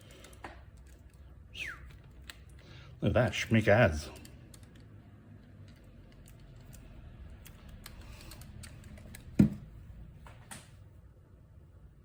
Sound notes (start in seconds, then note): 1.5 whistles